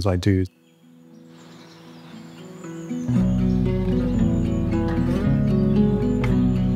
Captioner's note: birds twitter; bright music continues